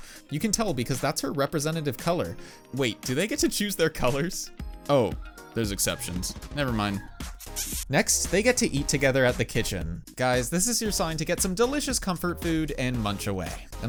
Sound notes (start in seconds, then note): 7.5 kissing sounds? 😳💋